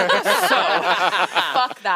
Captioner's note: all laugh